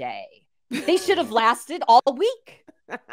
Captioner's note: laughs